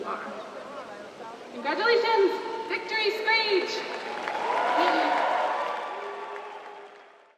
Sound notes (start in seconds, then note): 3.8 applause